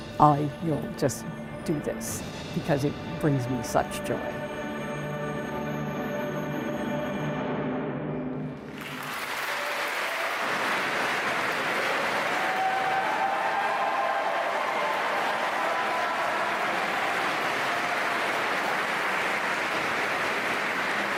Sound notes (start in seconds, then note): 4.2 singing, music playing; 8.4 applause; 11.4 cheering